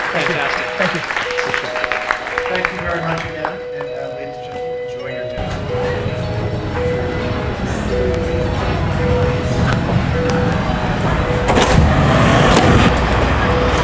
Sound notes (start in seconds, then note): 6.2 crowd chatter; 6.2 light music